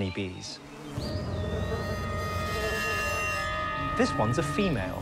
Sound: buzzing

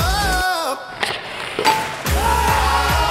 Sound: chime dings; cheering

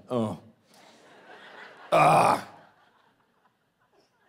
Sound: groaning

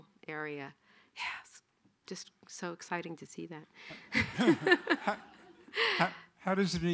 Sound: laughing

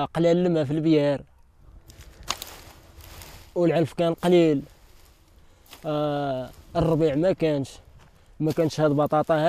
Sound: speaking arabic

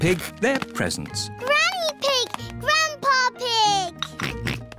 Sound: oinks

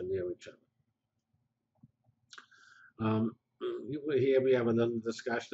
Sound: pause

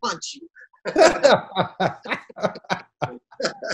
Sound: laughs

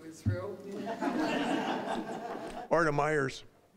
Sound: audience laughing

